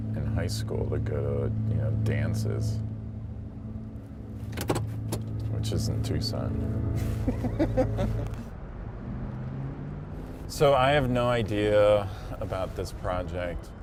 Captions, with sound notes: in high school to go to dances, which is in Tucson. (laughs) So I have no idea about this project.